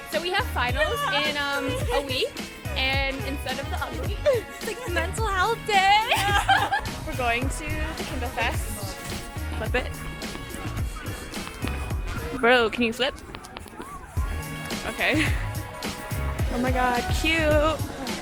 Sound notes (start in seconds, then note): 6.0 laughter